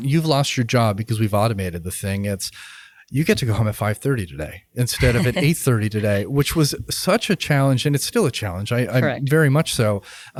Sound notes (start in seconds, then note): 5.0 laughs